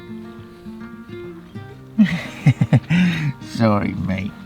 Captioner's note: laughing